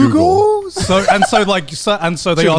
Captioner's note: laughs